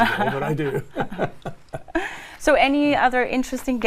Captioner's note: laugh